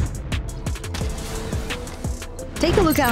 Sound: incendiary booming

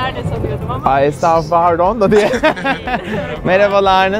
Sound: laughter

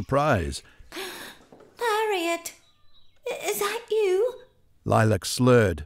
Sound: gasp

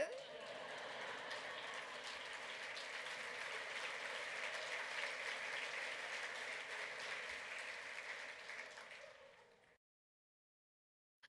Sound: laughter, applause

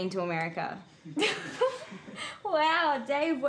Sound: laughter

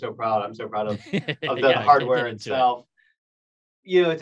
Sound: laughs

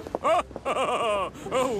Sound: gordon laughs

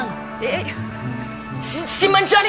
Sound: stammers

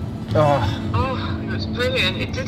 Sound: groans

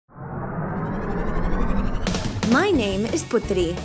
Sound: engine whirring

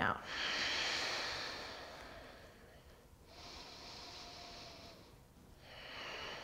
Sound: heavy breathing

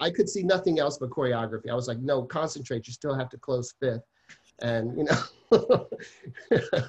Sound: laughs

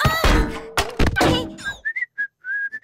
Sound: whistling

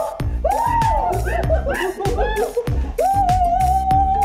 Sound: gorilla cheers

